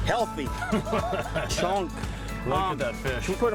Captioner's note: laughing